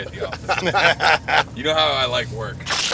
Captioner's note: all laughing